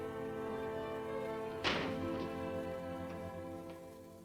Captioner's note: door closes